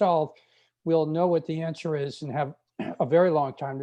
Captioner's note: clears throat